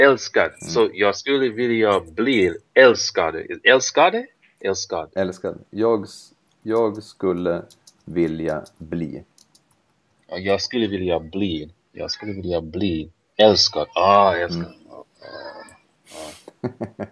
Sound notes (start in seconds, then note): 9.2 typing